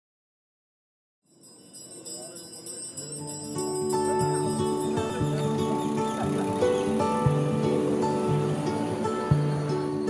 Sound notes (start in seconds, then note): 1.3 bell ringing; 3.2 peppy music